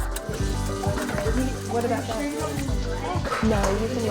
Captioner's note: overlapping chatter